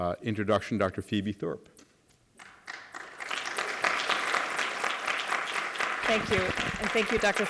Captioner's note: applause